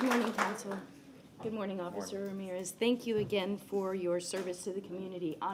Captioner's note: applause